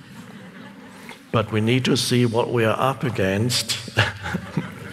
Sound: chuckles

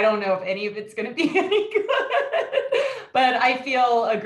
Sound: laughs

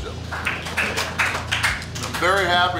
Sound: audience applauds

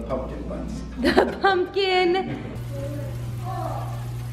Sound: laughs; seeds sizzle

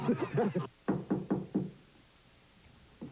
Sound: knock on door

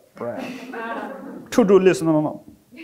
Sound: audience laughing

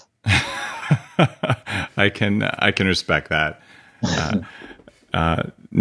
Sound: laughs

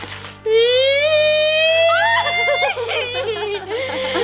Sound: squealing

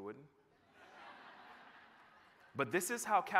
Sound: laughter

